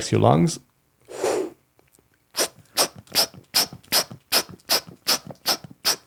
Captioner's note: breathing in and out